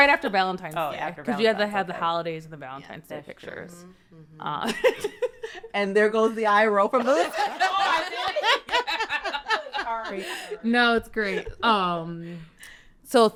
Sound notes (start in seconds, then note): 4.2 laughs; 6.9 all laughing